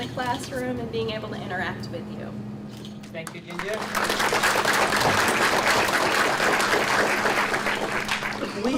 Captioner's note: audience applauds